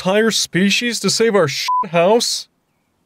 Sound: beep

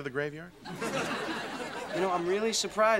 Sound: audience laughing

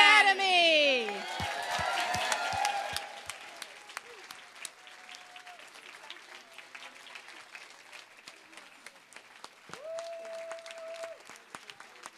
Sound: cheering, applause

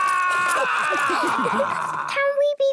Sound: all laughing

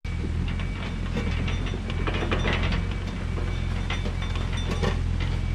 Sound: excavator grading

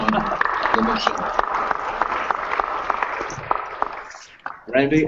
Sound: applause

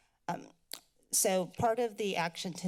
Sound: clicks tongue

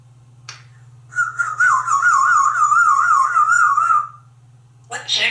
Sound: whistling

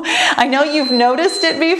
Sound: timer beeps

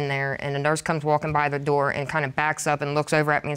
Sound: none

